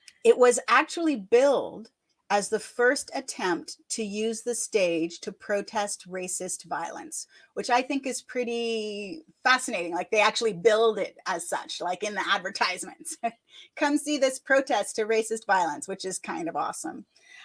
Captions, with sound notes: It was actually billed as the first attempt to use the stage to protest racist violence, which I think is pretty fascinating. They actually billed it as such, in the advertisements. (chuckles) "Come see this protest to racist violence," which is kind of awesome.